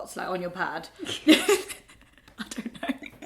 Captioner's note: both laugh